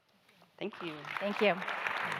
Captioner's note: audience applauding